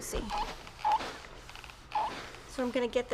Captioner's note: iron squeaks